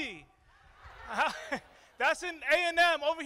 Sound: crowd

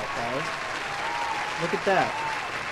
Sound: cheering

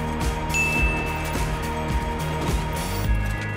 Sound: dinging

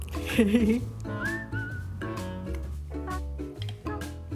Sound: laughing

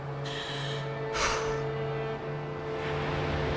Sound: sighs

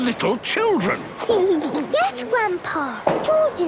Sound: giggles

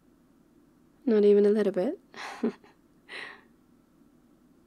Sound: laughs

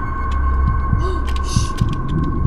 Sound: gasps

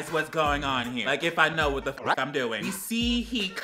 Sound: record scratches

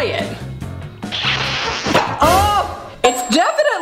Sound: kissing sounds

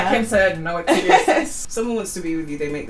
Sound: laughs

